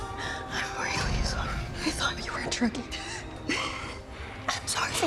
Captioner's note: whispers